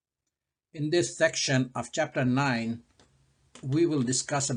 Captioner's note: voiceover